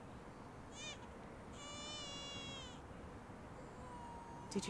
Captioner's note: baby crying